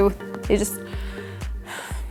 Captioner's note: sighs